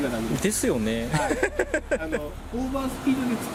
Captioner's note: laughs